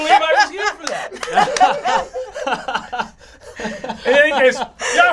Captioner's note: all laugh